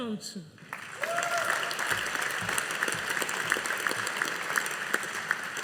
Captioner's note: audience applauding